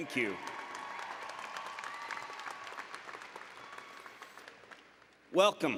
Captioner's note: applause and Cheering